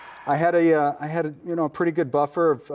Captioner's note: sighs